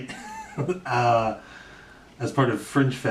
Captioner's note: laughs